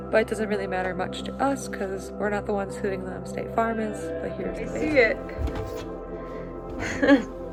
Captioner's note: laughs